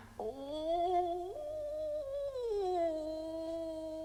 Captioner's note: Chrysula moaning